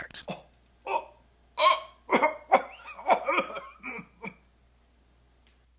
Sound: coughing

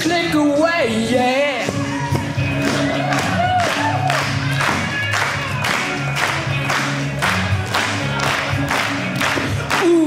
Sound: audience clapping

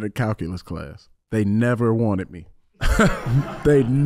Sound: audience laughing

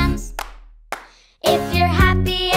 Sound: clapping

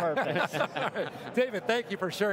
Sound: laughing

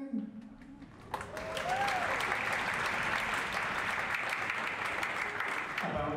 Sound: applause

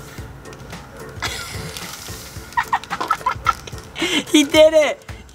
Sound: laughing

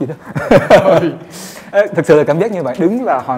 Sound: laugh

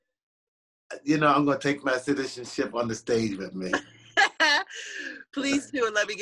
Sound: laughter

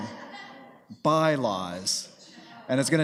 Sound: group laughing

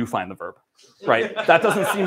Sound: laughter

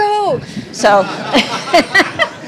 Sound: laughter

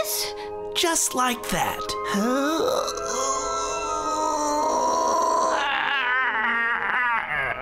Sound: groaning

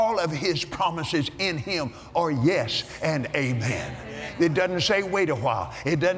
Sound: audience "Amens"

